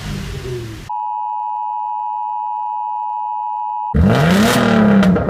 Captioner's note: long steady emergency warning beep; loud car rev'ing